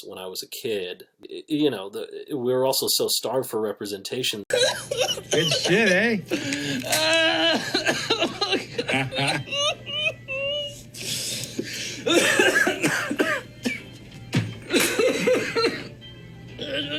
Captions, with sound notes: when I was a kid. You know we were also so starved for representation. (man sobbing) - Good shit, aye? (man sobbing) (older man laughs) (man coughing)